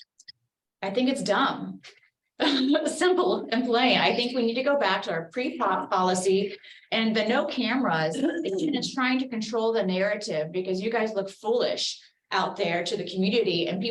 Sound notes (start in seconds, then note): 2.7 laughs